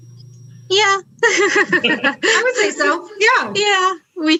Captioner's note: laughs